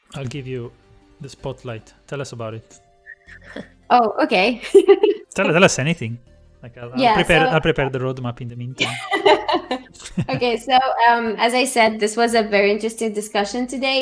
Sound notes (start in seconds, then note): 8.8 laughter